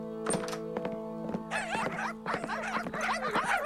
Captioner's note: laughs